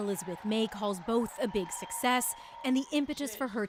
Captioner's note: cheers and Applause